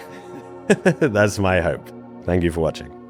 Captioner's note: laughs